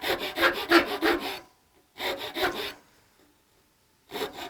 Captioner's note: file grinding